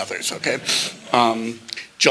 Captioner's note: laughter